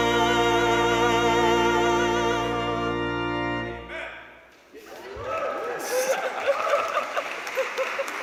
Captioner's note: cheers and applause